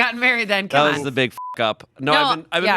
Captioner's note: beep